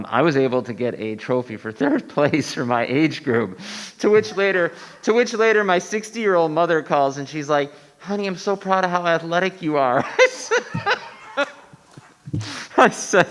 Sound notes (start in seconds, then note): 1.6 laughing; 4.0 attendees laughing; 9.9 everyone laughing